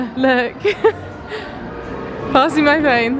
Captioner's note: laughs